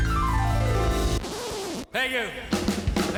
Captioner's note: lively rock music; video whirring